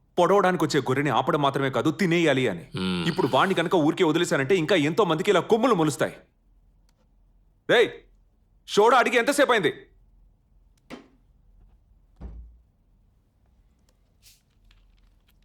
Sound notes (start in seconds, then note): 12.2 bottle thuds on the table; 14.1 soda bottle fizzes